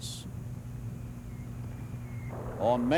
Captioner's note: mortar fire whistling, booming